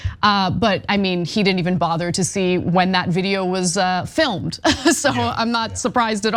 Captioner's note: laugh